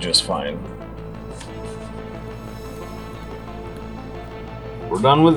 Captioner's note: fingers tapping quietly